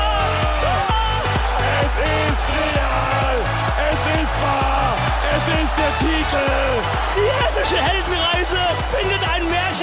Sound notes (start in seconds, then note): 1.6 screams